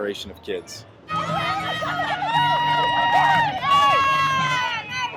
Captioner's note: people cheering